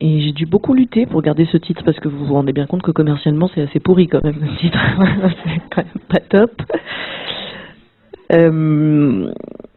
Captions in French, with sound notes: Et j'ai du beaucoup lutter pour garder ce titre, parce que vous vous rendez bien compte que commercialement, c'est assez pourri, quand même, aussi ! [rires] Pas top !